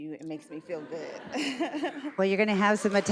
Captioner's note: audience laughs